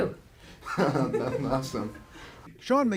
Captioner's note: laughter